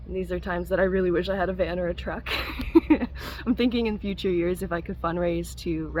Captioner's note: laugh